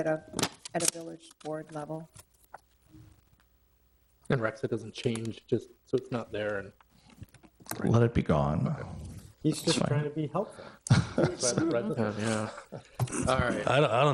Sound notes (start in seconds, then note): 10.8 people laughing